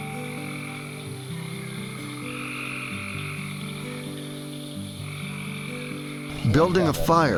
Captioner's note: crickets; soft music